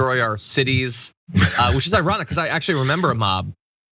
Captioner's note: laugh